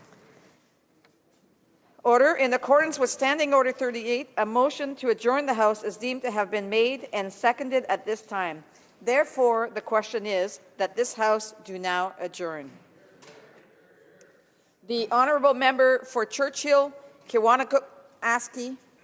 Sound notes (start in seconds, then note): none